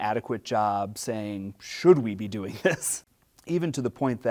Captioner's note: laughs